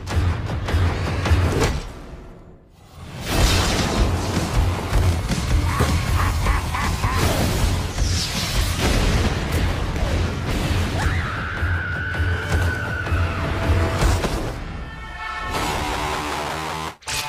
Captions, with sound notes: GREEN GOBLIN (evilly laugh) MARY JANE WATSON (screaming intensifies)